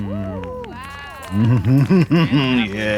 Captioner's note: Katya sneers